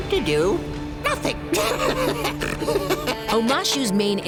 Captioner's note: laughing